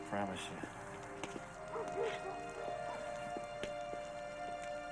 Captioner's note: dog barks